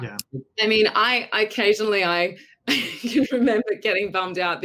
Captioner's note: laughs